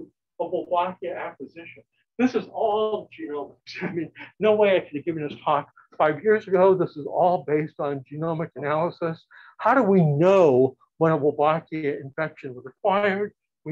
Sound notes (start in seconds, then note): 3.7 chuckles